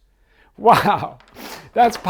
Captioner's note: chuckles